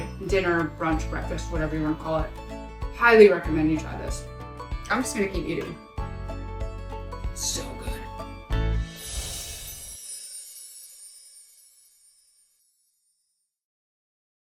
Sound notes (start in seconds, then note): 8.9 light chimes